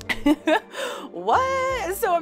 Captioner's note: laughs loudly